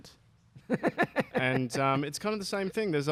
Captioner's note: laughter